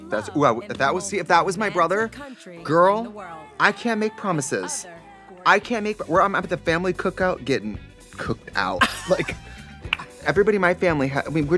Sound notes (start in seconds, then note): 9.9 Katya laughs, claps